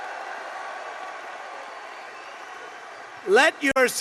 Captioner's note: applause